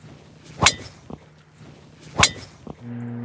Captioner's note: golf ball hit